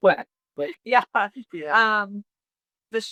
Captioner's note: chuckles